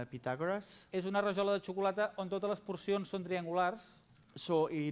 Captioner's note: non-english speech